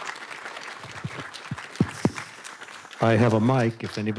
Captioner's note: participants applauding